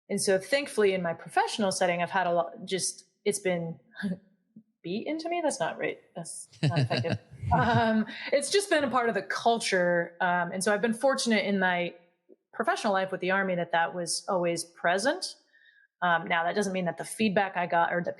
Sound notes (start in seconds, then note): 6.6 laugh